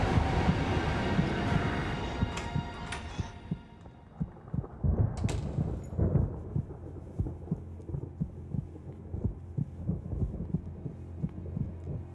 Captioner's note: door opening